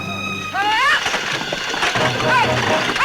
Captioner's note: Ellen shouts; exciting music